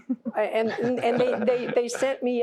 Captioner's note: laughter